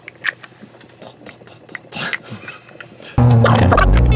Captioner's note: monster sounds continue but at now